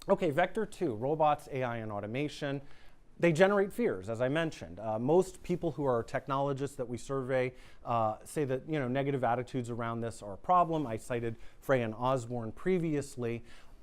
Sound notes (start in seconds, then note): none